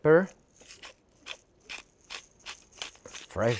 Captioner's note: pepper grinder whirring